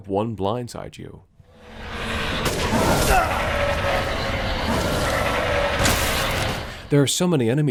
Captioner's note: Frantic noises of Lycan combat